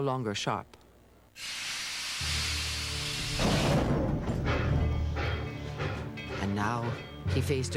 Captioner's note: hissing Steam